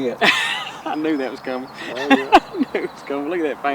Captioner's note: laughing